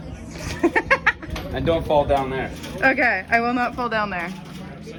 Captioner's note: laughs